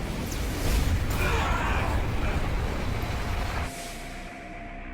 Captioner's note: robots grunting